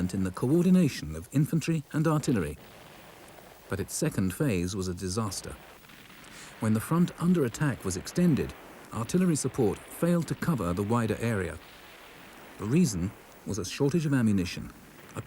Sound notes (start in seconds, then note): 5.9 cannon blasts